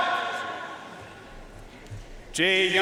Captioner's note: audience cheering and applauding